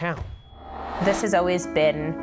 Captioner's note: air swooshing